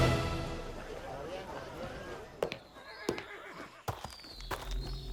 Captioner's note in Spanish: Bullicio